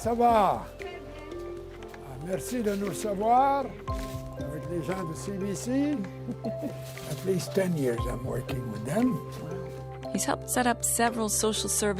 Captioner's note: speaking French